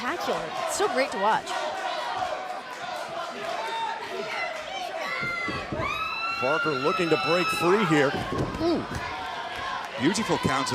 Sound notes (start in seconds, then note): 2.2 crowd chatter